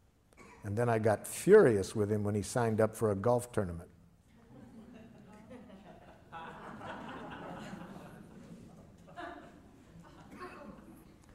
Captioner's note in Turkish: Gülüşmeler